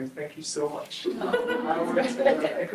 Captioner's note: group laughs